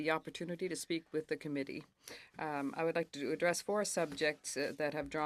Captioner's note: speaking French